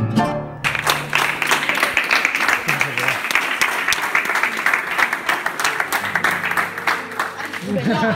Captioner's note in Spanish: aplausos